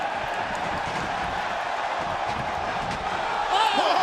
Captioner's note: crowd cheering